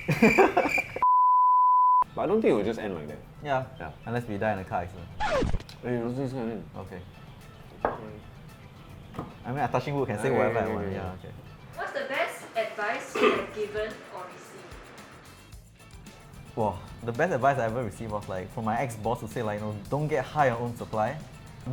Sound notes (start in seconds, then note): 9.1 knocks wooden table